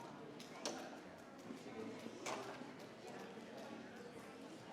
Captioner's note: crowd chattering continues